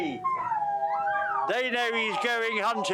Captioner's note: guy shouting at dogs; dogs whining